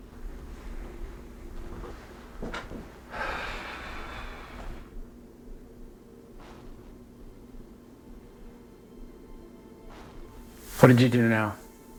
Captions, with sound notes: (Jason sighs) (gentle music) what did you do now?